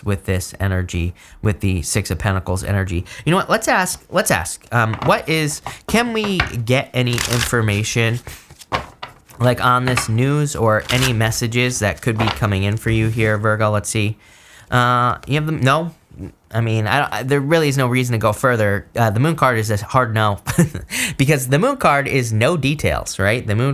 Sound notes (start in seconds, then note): 14.9 stammers; 20.4 chuckles